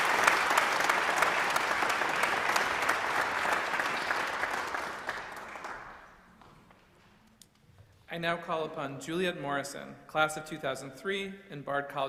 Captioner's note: applause